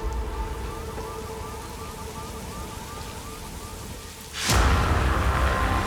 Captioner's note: car alarm beeping; dramatic music